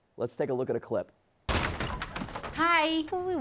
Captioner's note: door rattles